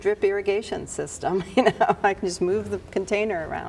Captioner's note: chuckling